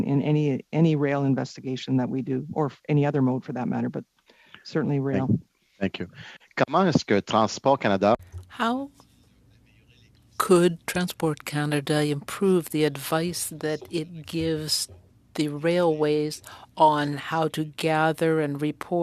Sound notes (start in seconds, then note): 11.0 speaking French